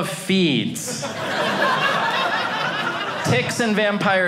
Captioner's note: audience laughing